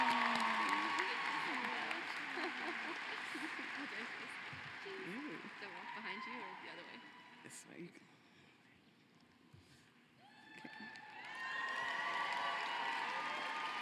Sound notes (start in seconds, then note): 2.3 cheering and applause